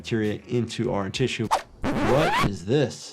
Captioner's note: record scratching